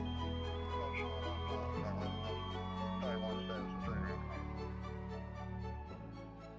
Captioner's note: equipment beeping; soft music continues